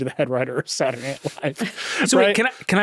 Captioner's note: chuckles